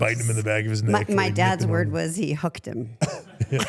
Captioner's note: laughs